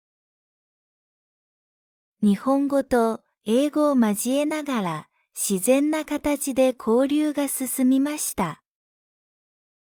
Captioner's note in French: japonais et anglais